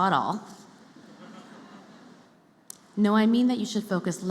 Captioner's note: laughter